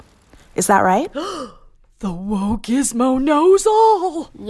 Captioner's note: gasps